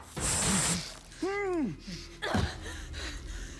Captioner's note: lasers whirring; hostage grunting; person shouting and gasping